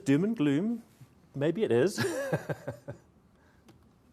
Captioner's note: laughs